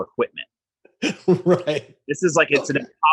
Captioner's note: laughs